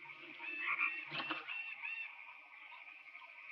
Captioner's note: clattering